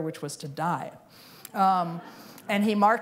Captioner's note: laughter